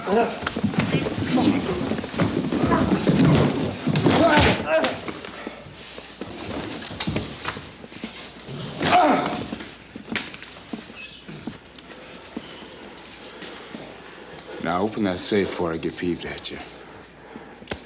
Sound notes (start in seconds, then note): 4.2 TJ groans; 8.8 TJ groans